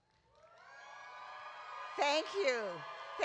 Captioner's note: audience cheering